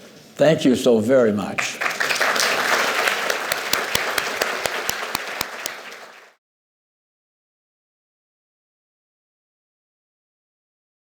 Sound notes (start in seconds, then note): 1.6 applause